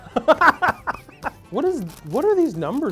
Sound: laughing

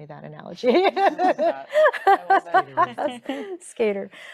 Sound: laughing

